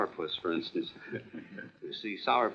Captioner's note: laughing